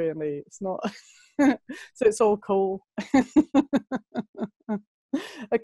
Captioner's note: lacht; lacht